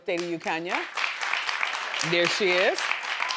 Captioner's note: crowd applauding